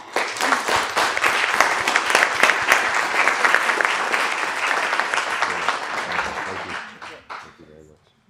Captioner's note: applause